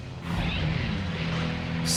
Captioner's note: engine roaring